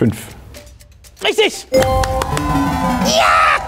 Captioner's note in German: Jubel, Applaus